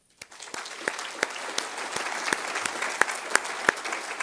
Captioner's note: audience applauds